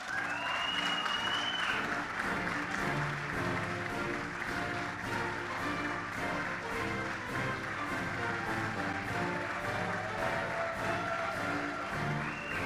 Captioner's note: applause